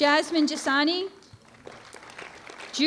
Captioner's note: applause